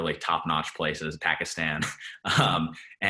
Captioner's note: laughs